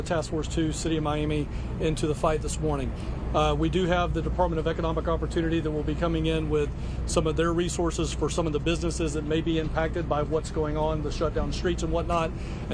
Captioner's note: drop in audio